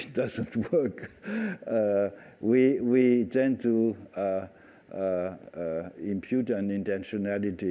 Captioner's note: laughter